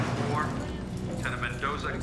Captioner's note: over P.A. system